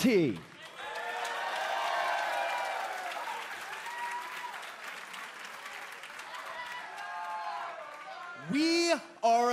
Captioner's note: crowd cheering